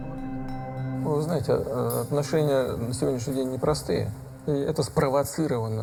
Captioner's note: speaking foreign language